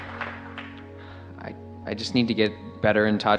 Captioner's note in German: Beifall